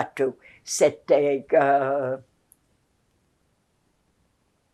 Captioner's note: pauses 8 seconds